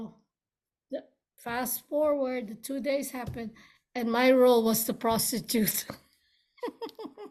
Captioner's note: laughs